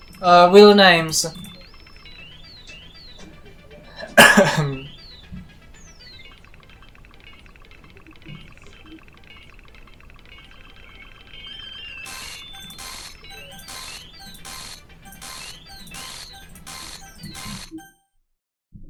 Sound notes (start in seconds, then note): 4.0 posh Cough; 12.1 camera zoom asmr